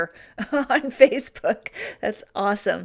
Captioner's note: laughs